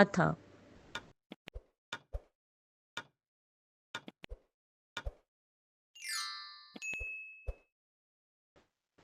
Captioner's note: timer running